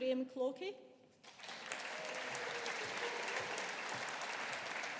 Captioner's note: audience applauding